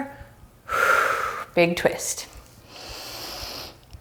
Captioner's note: deep breaths; deep breaths